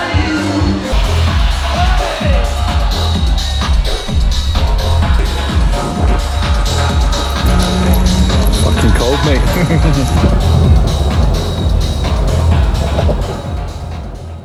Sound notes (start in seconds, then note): 0.3 booming electronic music; 10.6 laughs